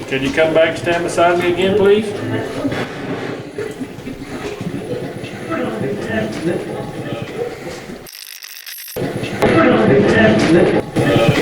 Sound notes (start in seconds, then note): 2.9 radio channel changing; 8.0 radio scratching